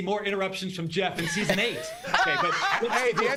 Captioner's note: laughter